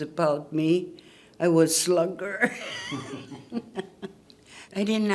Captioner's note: laughs